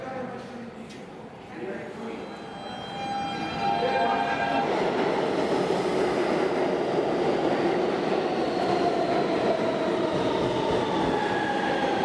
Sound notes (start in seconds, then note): 0.1 indistinct chatter; 7.4 subway whooshing past